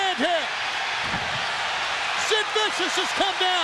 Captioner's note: crowd cheering